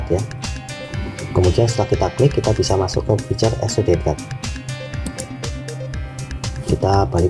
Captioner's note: click